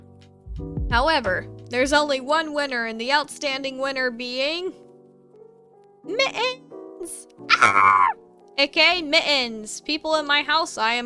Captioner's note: screaming of the damned